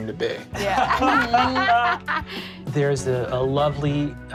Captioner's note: laughs